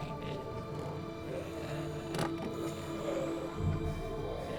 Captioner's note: clatter; groaning